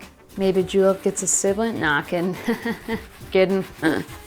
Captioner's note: chuckles